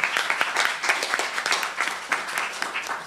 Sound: applause

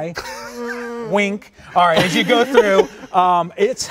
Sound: all laughing

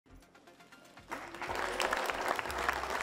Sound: applause

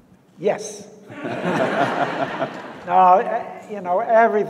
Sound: audience laughs

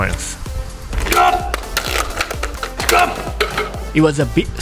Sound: staff grunts & bamboo rattles

